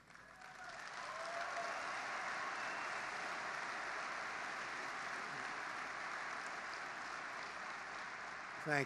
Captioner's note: applause